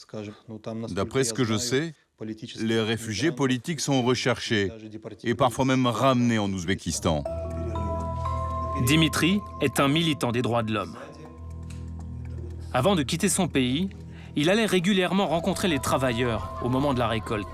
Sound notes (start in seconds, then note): 7.4 uzbek spoken language